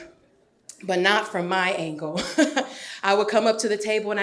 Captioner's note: laughs